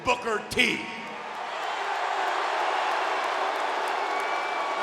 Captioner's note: crowd clamoring